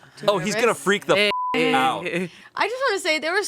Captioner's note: beep